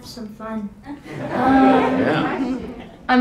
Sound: crowd laughs

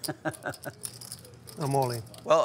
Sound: laughing

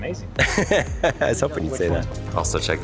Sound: presenter laughs

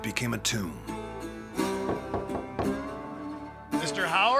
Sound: knocking

